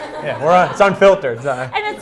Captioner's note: laughing